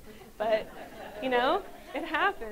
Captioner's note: audience laughs